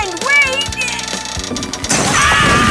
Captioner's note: ducts creaking; both screaming